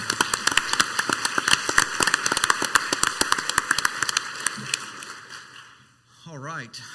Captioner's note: council members and audience applauding